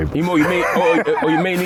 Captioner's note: laughing